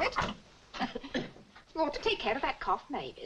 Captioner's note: Mavis coughs